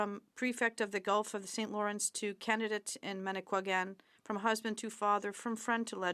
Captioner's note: speaking French